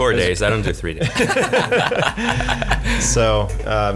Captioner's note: laughing